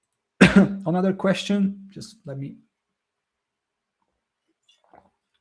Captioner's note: coughs